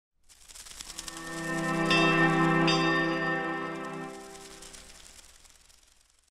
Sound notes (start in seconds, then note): 0.2 rustling sounds